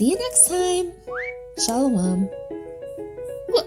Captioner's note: air whistling